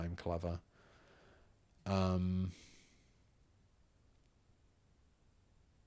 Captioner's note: silence